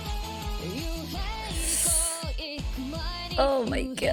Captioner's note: sharp inhale